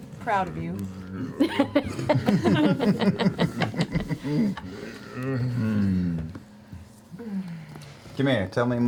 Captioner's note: grumbling